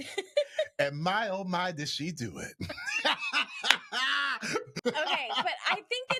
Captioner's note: laughs